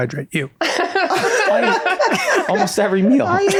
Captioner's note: Meg and Rob laugh